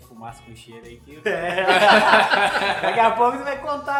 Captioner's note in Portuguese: risos